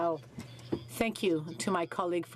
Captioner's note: speaking French